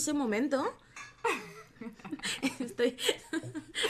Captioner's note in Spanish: risas